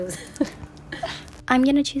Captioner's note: laughs